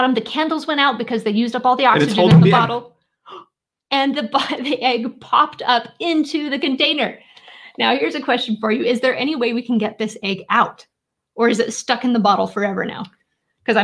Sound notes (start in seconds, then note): 3.3 egg pops; 3.8 gasps